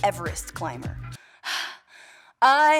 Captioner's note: heavy breathing